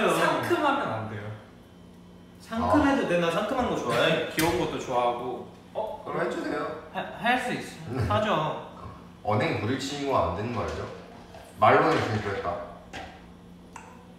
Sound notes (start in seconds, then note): 6.8 stammering